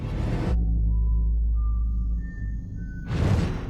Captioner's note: whistling